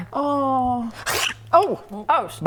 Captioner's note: nom